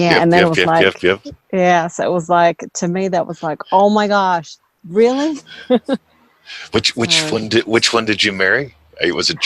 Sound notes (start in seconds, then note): 6.5 chuckles